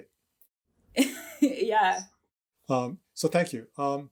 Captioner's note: chuckles